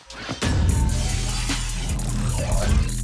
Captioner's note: grating